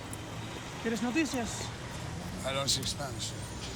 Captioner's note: paper man speaking Spanish